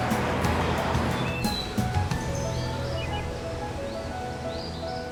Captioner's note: birds chirping